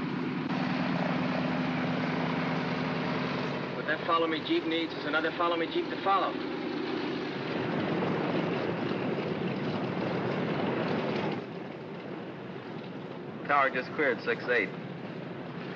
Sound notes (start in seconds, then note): 0.3 aircraft rumbling; 7.5 aircraft idles